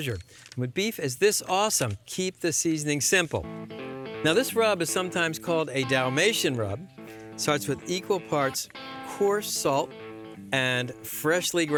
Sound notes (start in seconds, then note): none